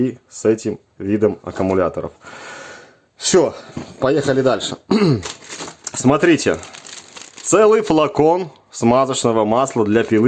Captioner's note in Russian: откашливается